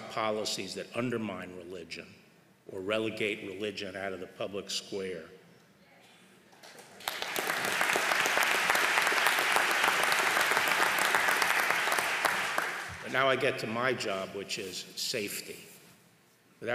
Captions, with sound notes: policies that undermine religion or relegate religion out of the public square. (applause) But now I get to my job, which is safety.